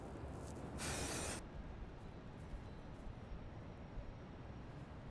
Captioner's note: paint can spraying